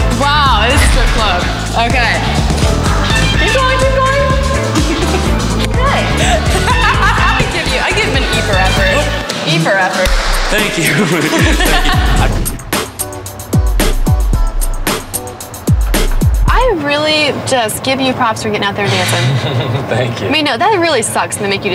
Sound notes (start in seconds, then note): 4.5 laughing; 10.8 laughing; 12.3 funk music; 19.5 laughs